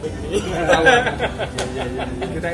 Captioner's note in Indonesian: laugh